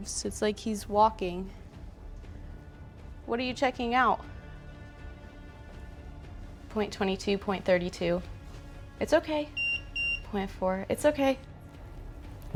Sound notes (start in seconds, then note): 9.5 EMF beeps